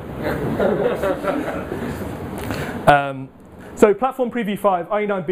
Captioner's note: audience laughs